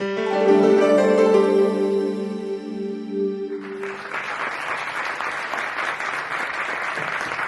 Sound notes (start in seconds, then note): 0.0 calming music; 3.6 audience claps